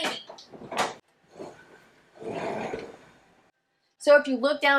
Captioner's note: clattering